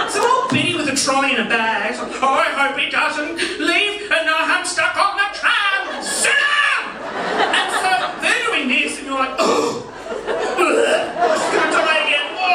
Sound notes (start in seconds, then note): 0.0 audience laughing; 1.6 mimics elderly voice; 5.9 yells in normal voice; 7.8 audience laughing; 9.6 making dry retching noises